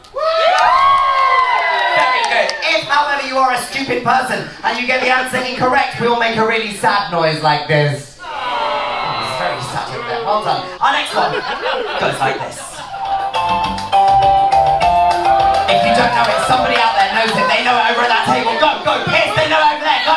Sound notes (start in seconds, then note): 0.0 crowd cheers; 8.2 crowd grumbles; 12.8 cheerful tropical music